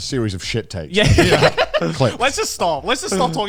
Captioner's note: laughs